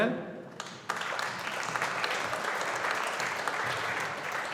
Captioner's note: audience applauding